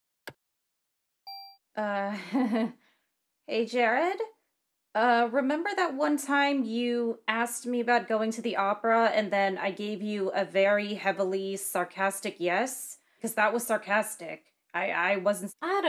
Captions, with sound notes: Uh... *Sarcastic chuckle* Hey Jared? Uh... Remember that one time you asked me about going to the opera? And then I gave you a very heavily sarcastic "Yes"? Because that was SARCASTIC. I.... I wasn't s--